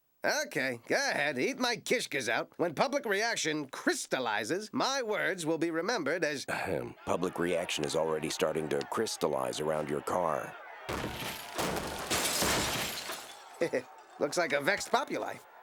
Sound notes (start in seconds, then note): 10.8 smashing windows; 10.9 mob banging on car